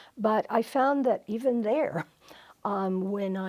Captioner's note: none